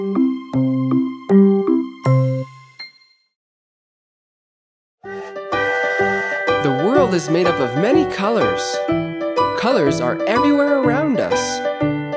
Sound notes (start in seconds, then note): 0.0 upbeat music; 5.1 train whistling